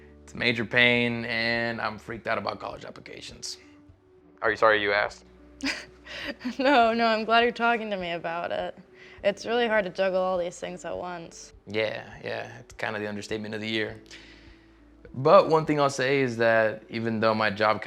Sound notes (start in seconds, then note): 6.2 laughs